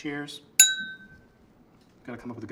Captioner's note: clinking sound